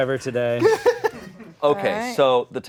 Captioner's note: laughing